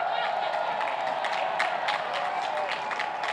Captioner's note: cheers and applause